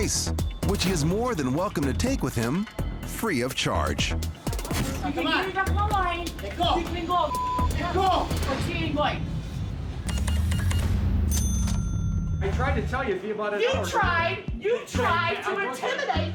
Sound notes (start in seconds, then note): 7.5 indistinct chatter; 11.2 cash register beeps, dings